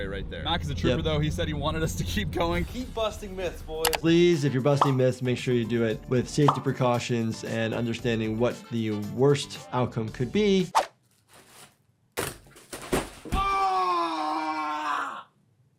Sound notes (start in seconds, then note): 12.2 body thudding on floor